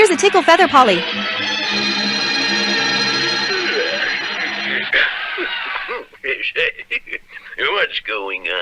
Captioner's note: crowd Roars